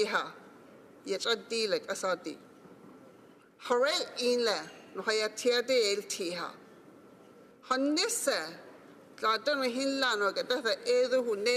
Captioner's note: speaking Alternate Language